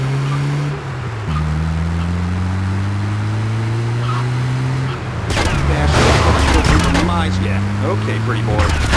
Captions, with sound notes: [Tires screeching] That bastard's gonna kill you from your eyes yet. Okay, pretty bored.